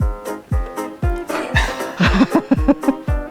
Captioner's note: they laugh; lively music